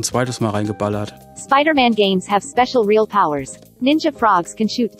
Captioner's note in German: Eine weibliche Computerstimme liest vor